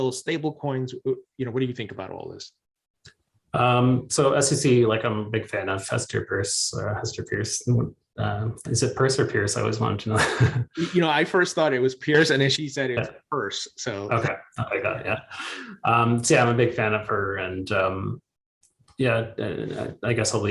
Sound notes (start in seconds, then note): 10.0 chuckles